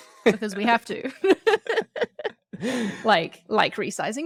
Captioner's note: laughs